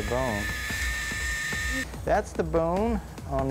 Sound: drill whirring

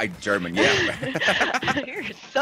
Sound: laugh

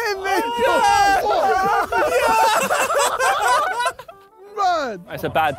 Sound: Sidemen cheering

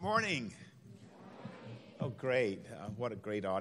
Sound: crowd

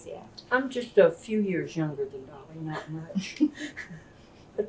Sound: laughter

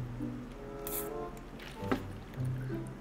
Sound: small sip

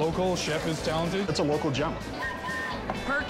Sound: whistle blowing

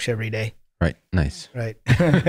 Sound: laughing

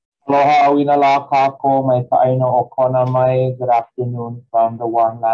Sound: speaking foreign language

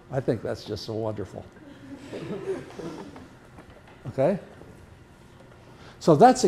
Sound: laughter

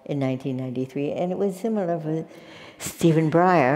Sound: none

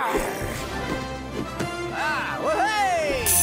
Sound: grunting

